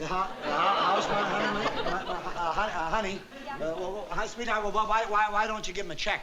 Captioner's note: stammering